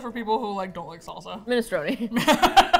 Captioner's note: laughs